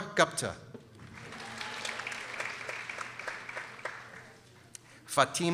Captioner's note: people applauding